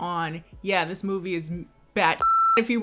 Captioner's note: beep